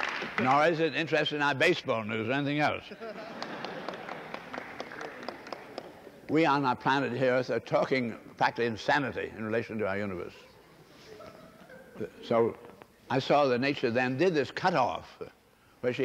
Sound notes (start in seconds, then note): 2.8 laughter; 3.3 applause